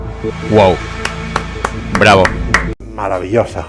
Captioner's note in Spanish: aplausos